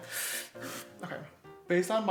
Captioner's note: inhales